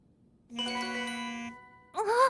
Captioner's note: notification sound